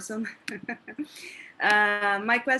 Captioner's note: laughs